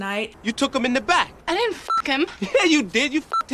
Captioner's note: beep